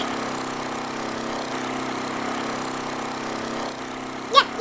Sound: ATV motor

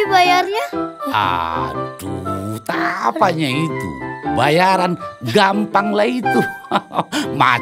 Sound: laughing

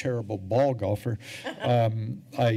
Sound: laughter

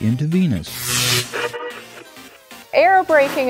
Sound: sound Effects

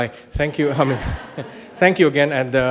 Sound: audience laughs

